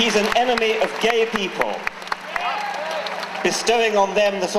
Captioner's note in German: Jubeln